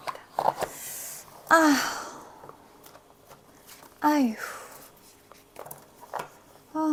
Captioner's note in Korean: 한숨